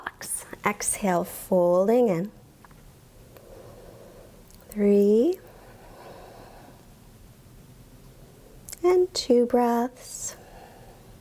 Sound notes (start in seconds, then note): 3.8 inhales; 5.6 exhales; 11.0 exhales